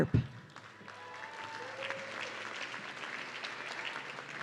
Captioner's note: audience cheering